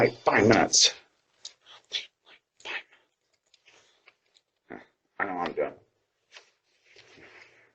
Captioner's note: stammers